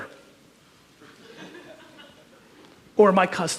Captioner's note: audience chuckles